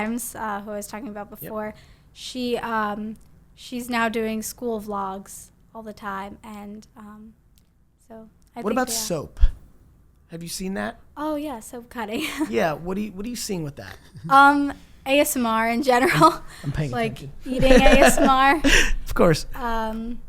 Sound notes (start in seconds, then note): 12.6 laughs; 17.5 laughs